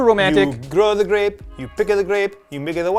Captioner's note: Italian accent